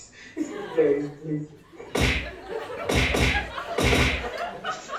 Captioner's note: punches